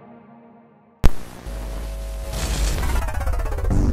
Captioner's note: TV hums and crackles; dark electronic music